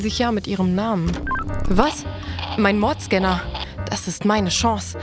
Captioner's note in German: Piepsen